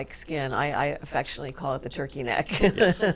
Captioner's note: laughs